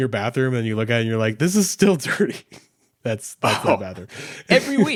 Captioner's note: chuckles